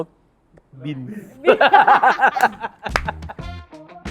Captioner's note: laughs